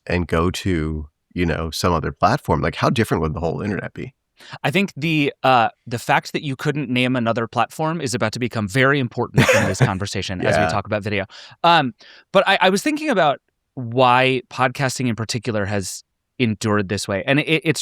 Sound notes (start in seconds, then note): 9.3 laughing